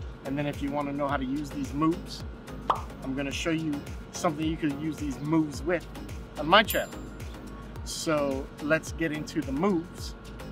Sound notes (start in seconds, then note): none